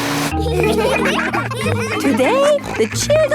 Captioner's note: whirring; all laughing